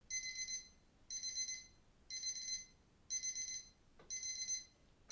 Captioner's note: alarm clock rings